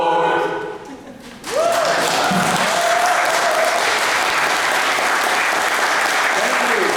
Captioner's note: applause